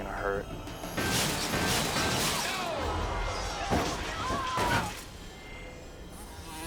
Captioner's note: metal clattering